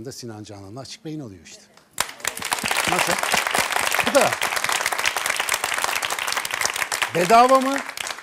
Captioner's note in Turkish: alkış